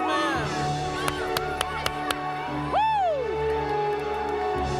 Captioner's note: applause